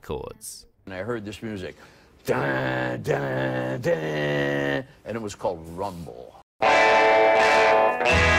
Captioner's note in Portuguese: imita o som